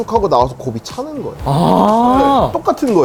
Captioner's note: ah~~~~~~~